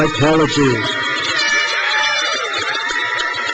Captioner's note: crowd cheers